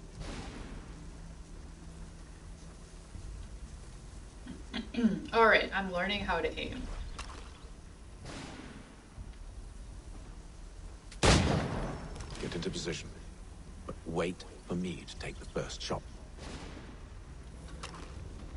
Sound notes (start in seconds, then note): 4.7 clears throat